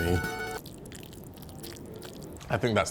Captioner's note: sauce squelching